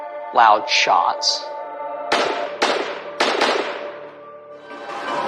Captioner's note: gununshotots s bang